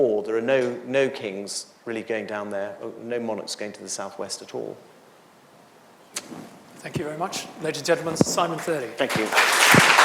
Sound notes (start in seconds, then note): 8.9 audience applauds